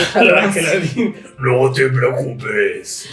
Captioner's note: low voice